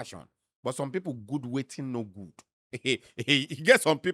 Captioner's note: chuckles